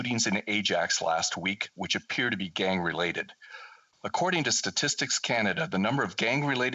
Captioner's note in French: voix de l'interprète